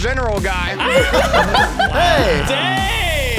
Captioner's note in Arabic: مجموعة تضحك